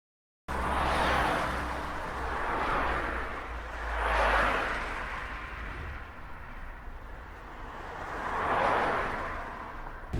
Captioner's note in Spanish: Sonido de autos circulando a alta velocidad en carretera